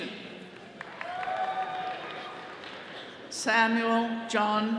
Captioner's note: attendees cheering